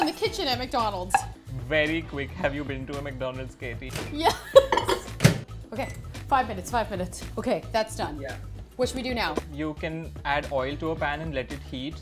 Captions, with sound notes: in the kitchen at McDonald's? - Very quick. Have you been to a McDonald's Katie? - Yes. (laughs) Okay. Five minutes. Five minutes. Okay. That's done. What should we do now? - You can add oil to a pan and let it heat,